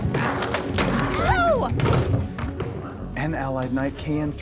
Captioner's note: door rattling